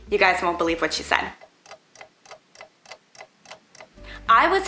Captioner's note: clock ticking